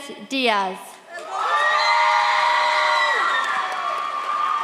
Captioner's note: audience cheers